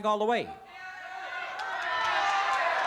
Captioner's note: crowd shouting